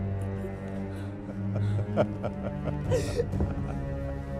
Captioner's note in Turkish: Gülme sesi